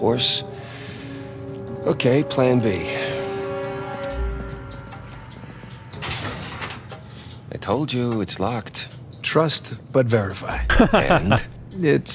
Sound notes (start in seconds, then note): 10.5 laughs